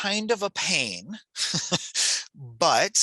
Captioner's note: chuckles